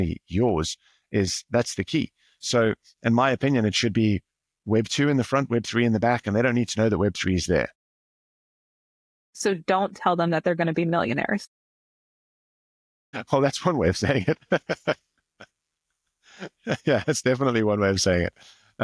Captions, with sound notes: yours is that's the key. So in my opinion, it should be web two in the front, web three in the back, and they don't need to know that web three is there. So don't tell them that they're gonna be millionaires. Well, that's one way of saying it. (laughs) Yeah, that's definitely one way of saying it.